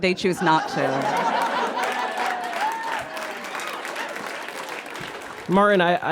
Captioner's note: audience guffaws and applauds